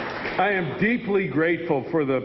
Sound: applause

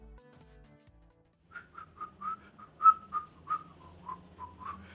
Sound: whistling

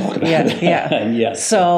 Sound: laughs

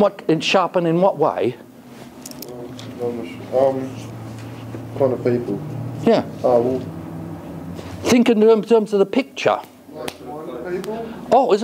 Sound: student mutters

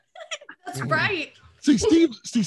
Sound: laughing

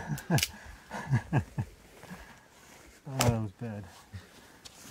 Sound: laughing

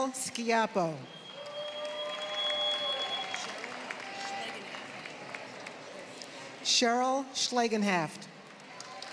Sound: applause; applause

